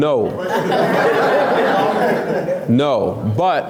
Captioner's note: laughs